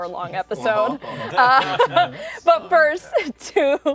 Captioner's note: laughter